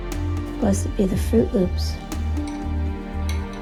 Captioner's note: voiceover